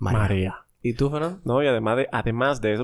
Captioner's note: none